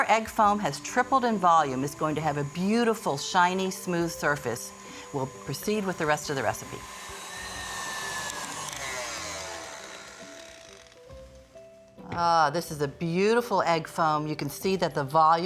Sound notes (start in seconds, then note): 7.7 mixer stops